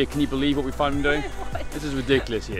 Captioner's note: laughs